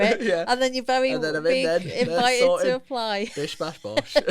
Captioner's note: laughter